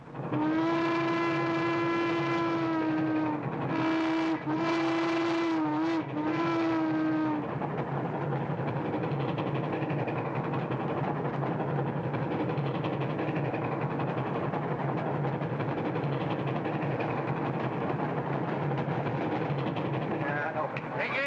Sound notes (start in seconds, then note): 0.3 train whistle blows; 0.3 train rumbling